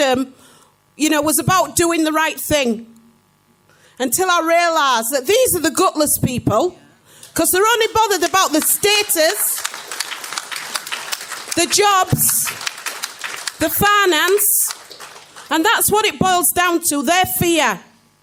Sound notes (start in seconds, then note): 10.3 clapping